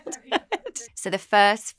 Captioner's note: laughter